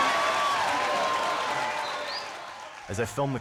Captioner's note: cheering